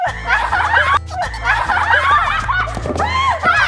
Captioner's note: laughing